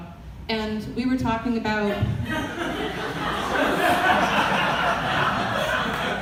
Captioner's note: audience laughter